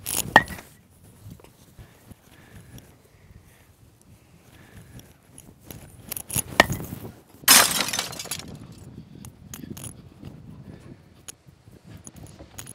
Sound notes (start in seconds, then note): 0.4 bat hits ball; 6.6 bat hits ball; 7.4 glass breaks